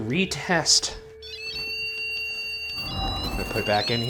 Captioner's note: continuous beeping